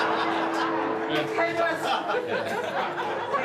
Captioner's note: laughter